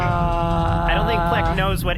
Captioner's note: groans continuously